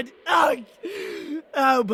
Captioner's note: inhaling